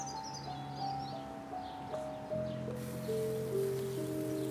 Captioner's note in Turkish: Kuş cıvıltısı sesi